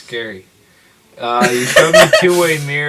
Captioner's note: more goblin laughter